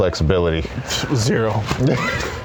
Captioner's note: laughs